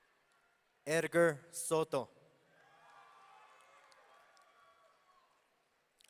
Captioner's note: audience cheering